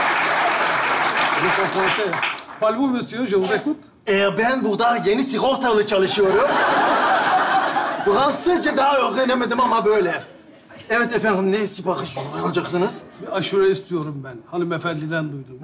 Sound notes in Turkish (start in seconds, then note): 1.3 Fransızca konuşur